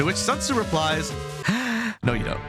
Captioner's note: breathes In